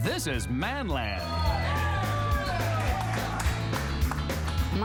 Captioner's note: cheering